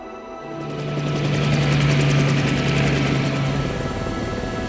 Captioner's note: helicopter whizzing